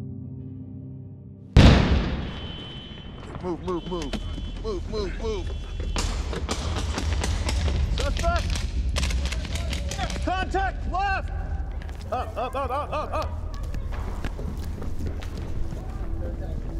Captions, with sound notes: [explosion] Move! Move! Move! Move! Move! Move! [gunfire] Suspects? [gunfire] Contact left! Up! Up! Up! Up! Up!